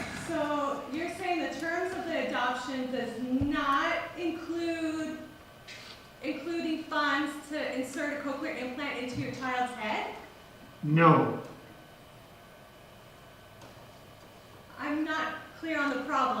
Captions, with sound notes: You’re saying the terms of the adoption does not include funds to pay to insert a Cochlear implant into your child's head? (voice on phone)No. I’m not clear on the problem.